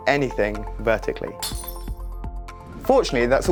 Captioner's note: glass shattering